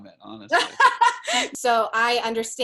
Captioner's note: laughs